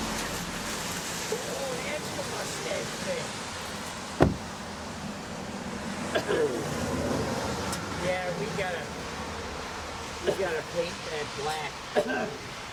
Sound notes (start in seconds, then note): 4.1 vehicle door banging; 6.1 coughing